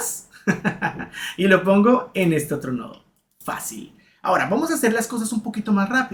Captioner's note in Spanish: risas